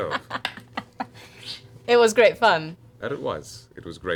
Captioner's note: laughs